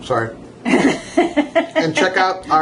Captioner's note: woman laughing